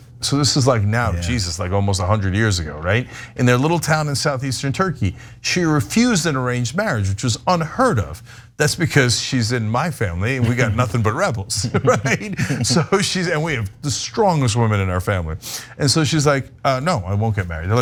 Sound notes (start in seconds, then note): 11.5 laugh